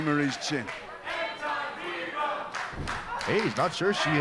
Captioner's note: crowd cheering